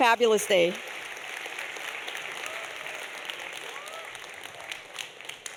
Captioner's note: audience applauding